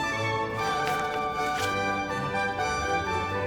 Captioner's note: reading noises